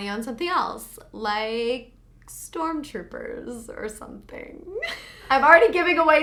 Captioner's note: laughs